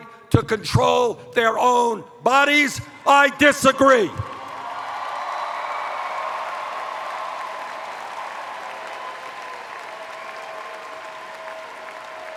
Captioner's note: cheers